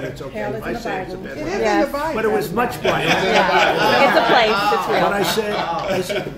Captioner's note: laughter